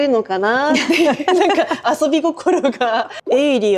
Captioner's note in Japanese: 笑い